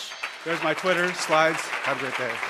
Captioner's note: audience applause